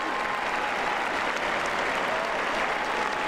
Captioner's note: applause